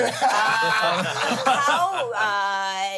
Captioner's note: everyone laughs